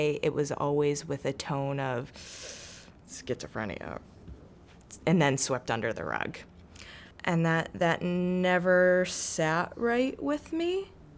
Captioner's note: holds in breath